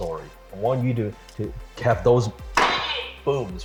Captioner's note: bangs table